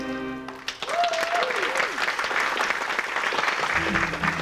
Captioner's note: applause